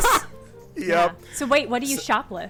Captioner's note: laughing